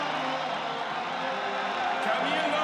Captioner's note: audience cheering